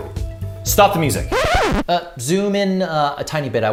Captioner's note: record scratching